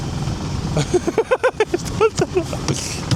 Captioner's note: laughs